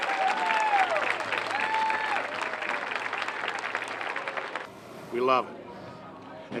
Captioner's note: applause